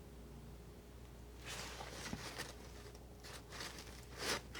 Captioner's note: scratching